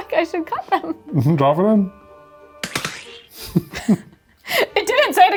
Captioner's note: laughs